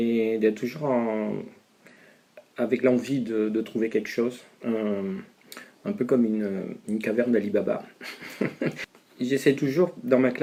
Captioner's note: laughs